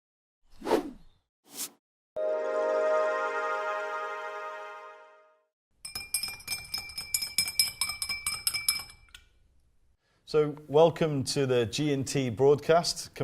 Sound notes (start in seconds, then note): 2.2 euphoric sound; 5.8 glass tinkling